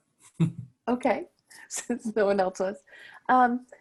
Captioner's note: laughing